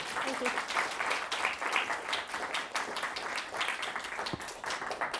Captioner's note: audience applauding